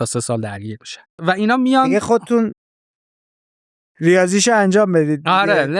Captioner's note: laughs